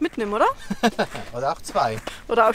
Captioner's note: laughs